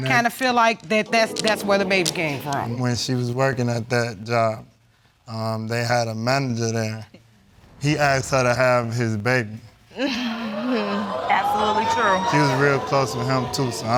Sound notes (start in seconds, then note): 9.9 sighing